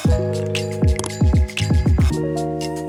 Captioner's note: click sound